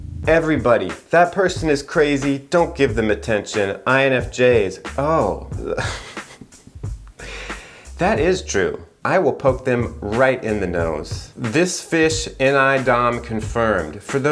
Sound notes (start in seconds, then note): 5.7 laughs